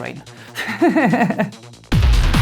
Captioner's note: laughs